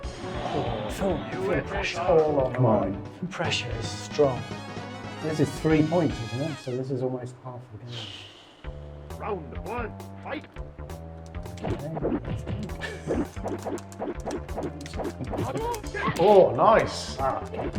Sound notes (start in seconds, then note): 8.3 sighs; 11.4 limbs whooshing; 17.5 limbs whooshing